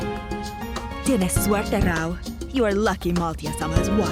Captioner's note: in Spanish